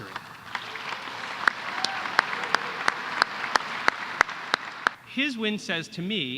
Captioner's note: applause